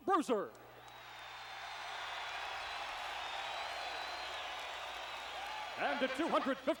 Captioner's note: applause